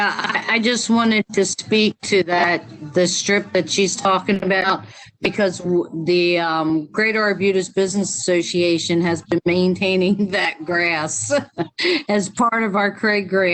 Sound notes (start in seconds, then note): 11.2 laughter